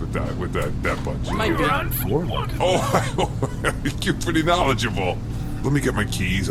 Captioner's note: laughs